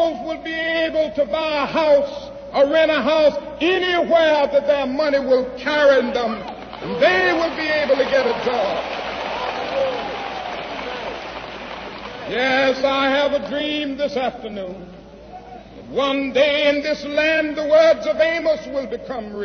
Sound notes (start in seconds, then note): 9.5 applause